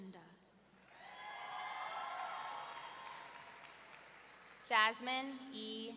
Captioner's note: audience cheering